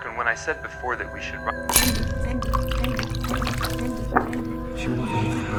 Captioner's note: distorted whispers